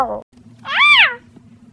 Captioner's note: mickey noise